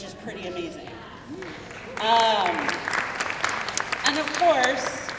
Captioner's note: crowd clapping